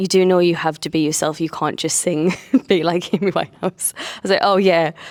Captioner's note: laughing